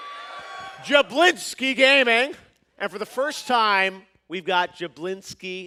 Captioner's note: cheers and applause